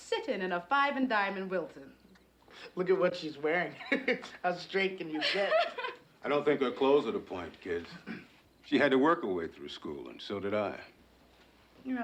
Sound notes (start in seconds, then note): 5.0 Kerry laughs; 5.0 laughs